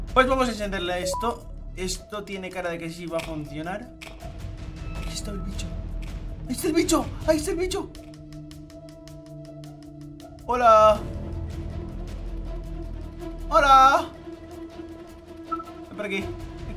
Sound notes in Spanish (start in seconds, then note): none